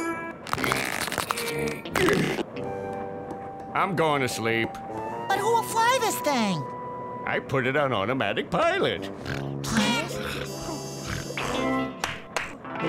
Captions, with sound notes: [stretching, grunting] I'm going to sleep. But who will fly this thing? I put it on automatic pilot. [snoring] [clapping]